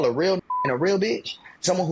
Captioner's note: beep